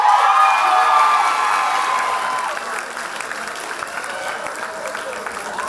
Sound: loud applause and cheers

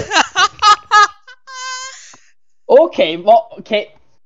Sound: voice crack extream

